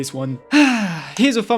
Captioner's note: exhale